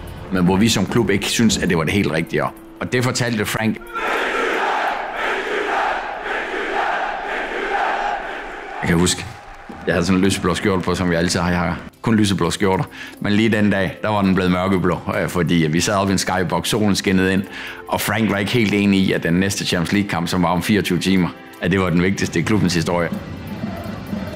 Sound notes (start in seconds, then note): 3.8 crowd cheering